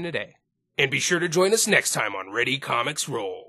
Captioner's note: Dragon Ball Narrator Voice